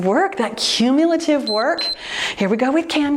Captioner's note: timer beeps